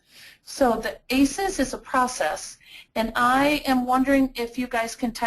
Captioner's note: voiceover